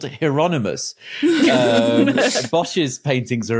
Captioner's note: laugh